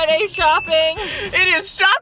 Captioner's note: bell dinging